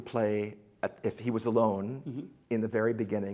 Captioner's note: none